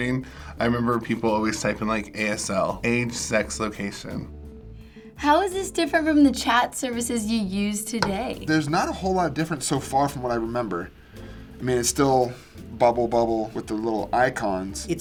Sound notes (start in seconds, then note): none